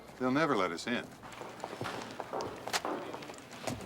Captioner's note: footstep